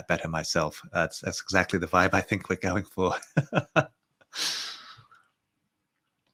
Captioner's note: chuckles